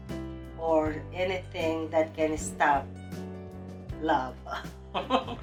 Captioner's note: laughing